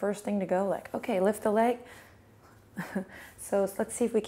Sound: chuckles

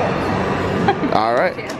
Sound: laughs

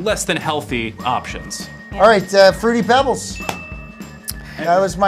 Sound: bell dings

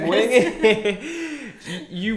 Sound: both laughing

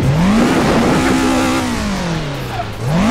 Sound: wheeze

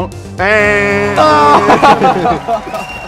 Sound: imitates buzzer sound; laughs

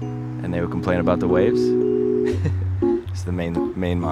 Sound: laughs

